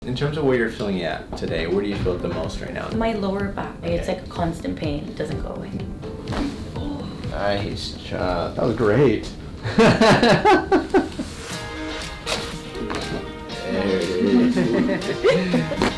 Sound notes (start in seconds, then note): 6.2 cracking noise; 9.6 laughing; 11.4 gentle upbeat music; 12.2 cracking noise; 14.1 patient laughing; 15.8 cracking noise